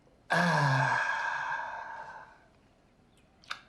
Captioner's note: exhales